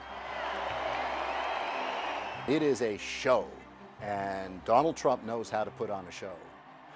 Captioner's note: crowd cheering